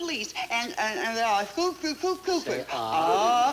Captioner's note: Joan mumbling